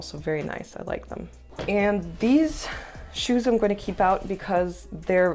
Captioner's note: sigh